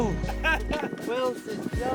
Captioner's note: laughing